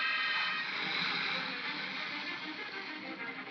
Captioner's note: ominous music; crocodiles hiss; ominous music